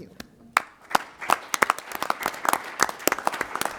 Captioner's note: applause